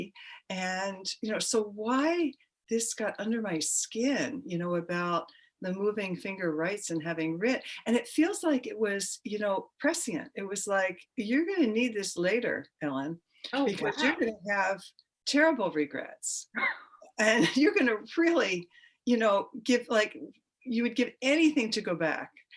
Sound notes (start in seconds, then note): 17.3 women laugh